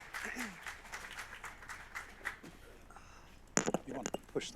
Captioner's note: audience applauds